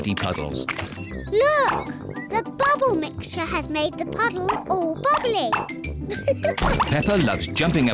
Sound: laughs

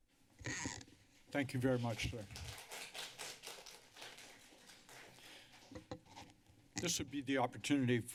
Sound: applause

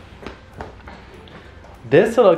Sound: foot steps

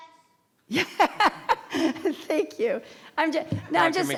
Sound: laughs

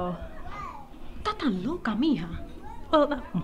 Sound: Robin speaks Spanish

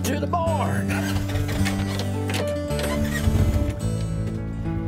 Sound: engine starts

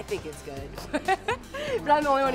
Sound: laughs

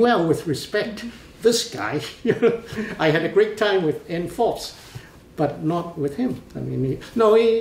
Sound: laughs

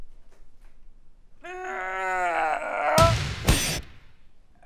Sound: big groan

